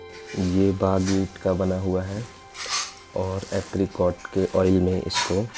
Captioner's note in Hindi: नाक से की जाने वाली आवाज़